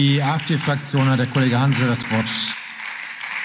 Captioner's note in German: Beifall